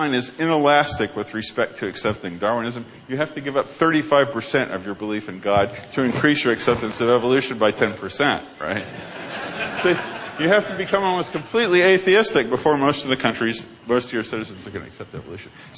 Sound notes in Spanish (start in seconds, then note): 8.8 Risas